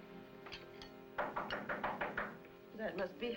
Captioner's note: knock